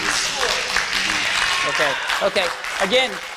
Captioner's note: applause